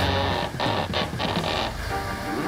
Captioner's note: rope creaking